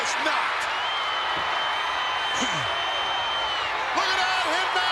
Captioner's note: crowd cheering